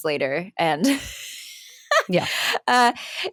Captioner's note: she laughs